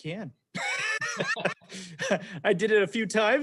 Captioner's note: laughing